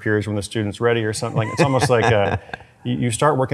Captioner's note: laughs